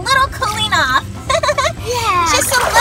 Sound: laughs

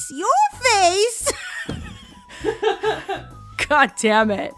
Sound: laughs

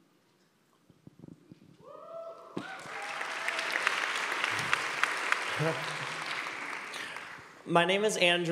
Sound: applause

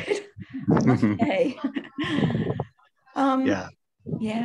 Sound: chuckling

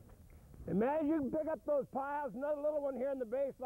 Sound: shouting

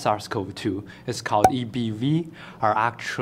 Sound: pop

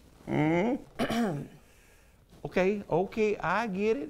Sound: Siri clears throat

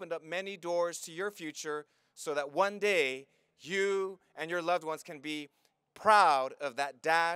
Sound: none

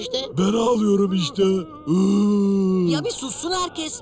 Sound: crying sounds

